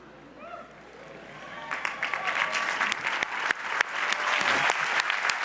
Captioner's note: audience applauds